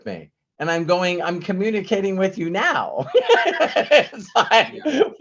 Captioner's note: laughs